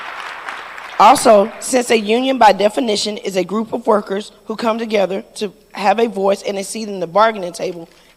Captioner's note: applause